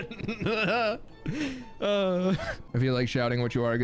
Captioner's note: laughing; sighs